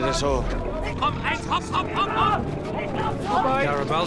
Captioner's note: speaks in foreign language